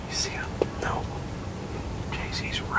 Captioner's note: whispering